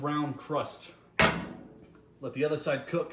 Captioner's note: metal clanking